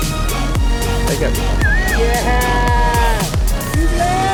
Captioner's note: men whooping